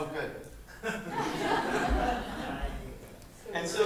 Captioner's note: laughter